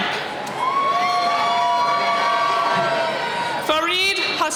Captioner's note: cheering